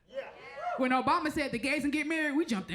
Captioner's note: crowd member cheers